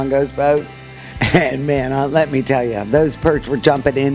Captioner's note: chuckles